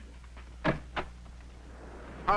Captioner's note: door opening